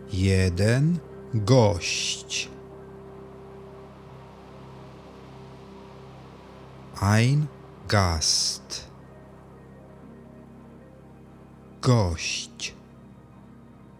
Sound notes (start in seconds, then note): 8.5 german